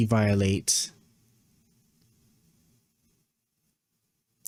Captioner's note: mouse clicking